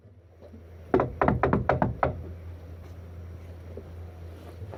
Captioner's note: knocks on the door